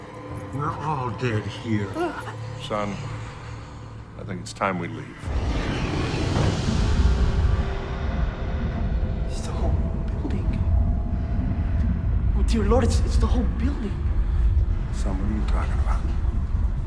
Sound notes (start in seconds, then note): 6.9 voice growls